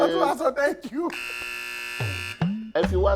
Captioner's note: laughs; buzzer sounds